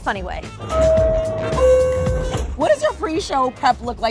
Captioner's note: door chime